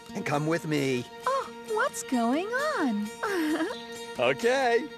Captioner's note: laughing